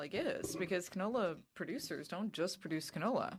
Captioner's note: speaking French